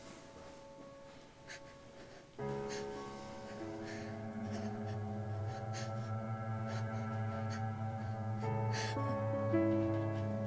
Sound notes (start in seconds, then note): 3.5 crying